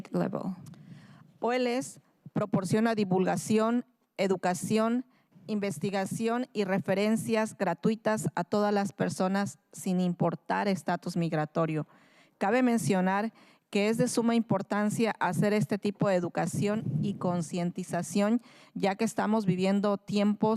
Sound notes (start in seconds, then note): 4.7 speaking in spanish